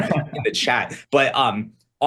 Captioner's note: laughs